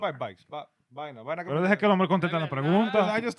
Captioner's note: speaking In Foreign Language